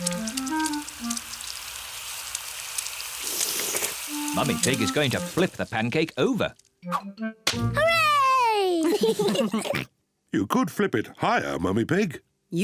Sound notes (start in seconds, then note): 2.2 all slurp; 8.0 kids and mummy pig laugh